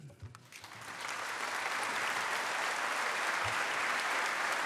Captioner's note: applause